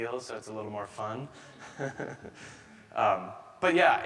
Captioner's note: chuckles